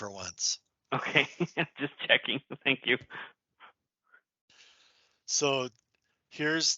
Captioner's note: laughs